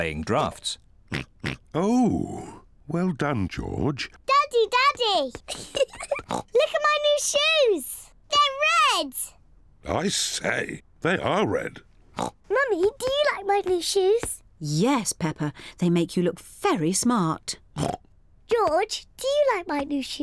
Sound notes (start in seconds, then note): 1.1 oinks; 5.4 laughs; 6.2 oinks; 12.1 oinks; 17.7 oinks